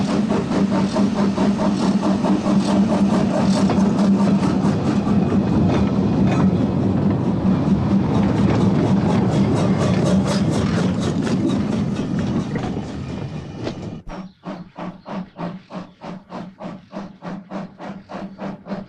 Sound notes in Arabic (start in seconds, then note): 4.9 صوت القطار